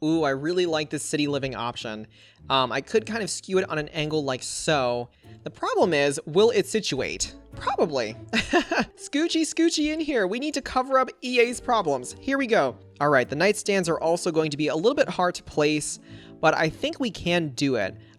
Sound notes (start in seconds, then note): 8.4 laughs